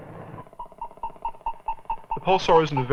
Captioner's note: beeping